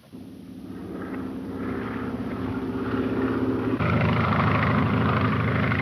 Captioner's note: airplane engine roaring